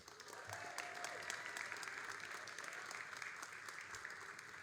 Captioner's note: all applauding